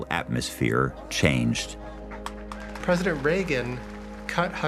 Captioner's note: crowd applauding